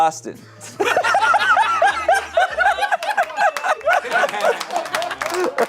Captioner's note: audience laughing